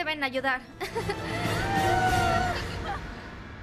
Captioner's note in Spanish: todas aclamando